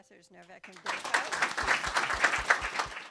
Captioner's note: applause